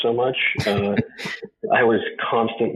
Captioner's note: chuckles